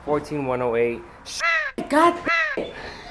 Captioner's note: bird noise